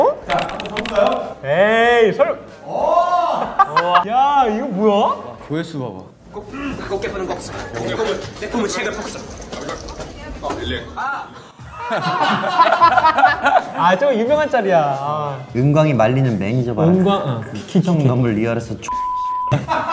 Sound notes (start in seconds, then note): 11.0 laughing; 19.5 laughing